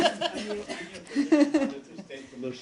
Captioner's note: laughter